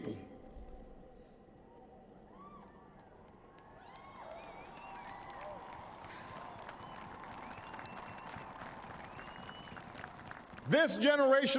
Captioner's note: applause